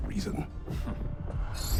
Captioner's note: laugh